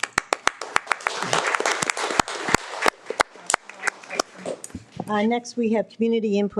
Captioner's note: board members and audience clapping